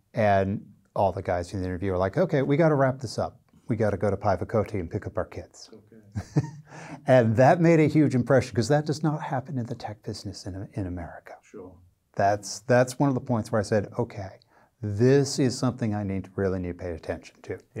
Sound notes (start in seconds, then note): 6.1 laughing